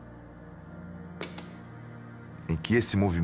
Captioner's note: sound of the pen hitting the ground